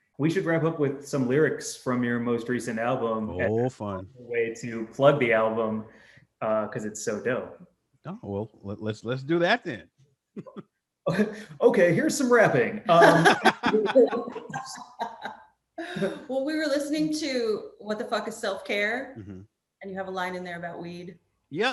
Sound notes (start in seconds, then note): 8.6 laughs; 12.8 all laughing